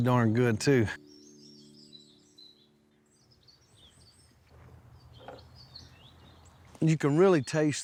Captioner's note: birds chirping